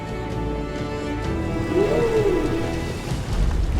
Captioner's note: whale singing